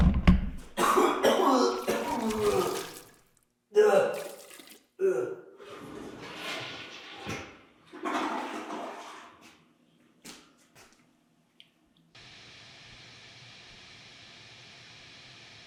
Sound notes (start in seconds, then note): 0.0 camera thuds; 0.7 Jacob retching; 5.5 toilet flushing; 12.2 static hissing